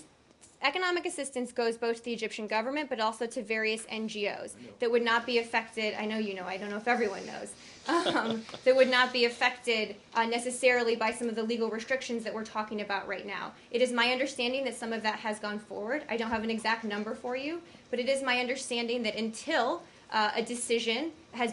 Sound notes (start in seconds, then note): 7.9 laughter